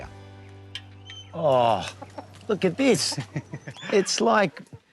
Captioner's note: laughs